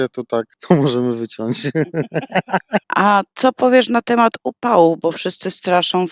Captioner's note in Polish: śmiech